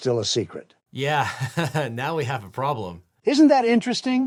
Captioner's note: laughs